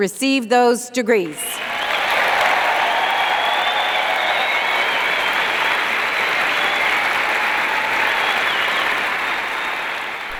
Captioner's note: applause